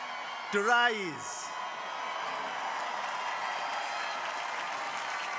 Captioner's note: crowd applauding